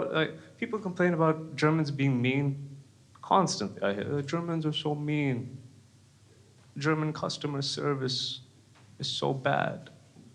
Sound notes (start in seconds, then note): none